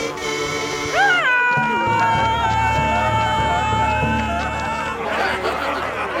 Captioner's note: yelling